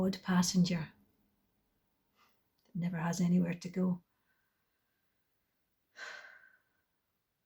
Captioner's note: exhales